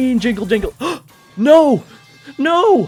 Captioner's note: gasp